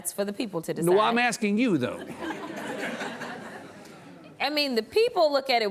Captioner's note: audience laughs